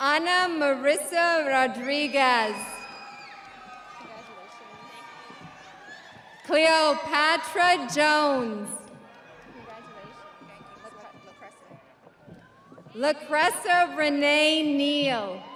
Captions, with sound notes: Anna Marisa Rodriguez. (audience applauding) (audience cheering) Cleopatra Jones. Lapressa Renee Neil.